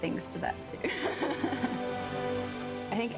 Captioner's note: laughs